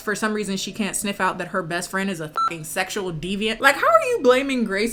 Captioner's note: beep